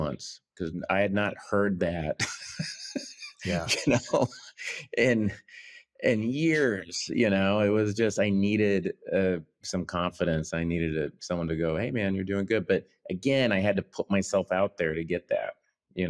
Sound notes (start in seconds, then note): 2.0 laughs